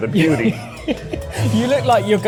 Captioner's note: laughs